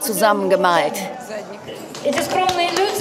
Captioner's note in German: Klatschen